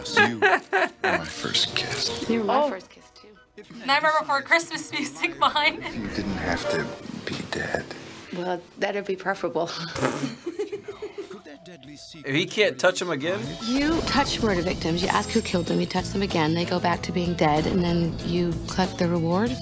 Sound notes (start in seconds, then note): 0.0 Nick laughs; 9.9 React laughs